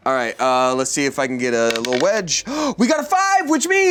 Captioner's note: gasps